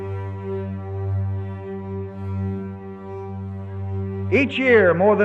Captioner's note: soundbite of archived recording